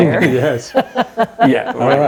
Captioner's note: laughing